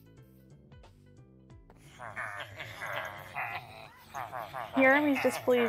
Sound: Lots of Villager noises

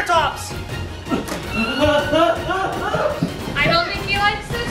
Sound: dad yelling

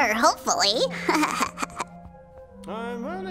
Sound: chuckling

